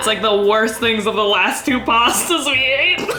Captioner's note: laughs